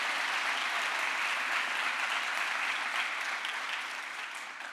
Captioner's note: crowd applause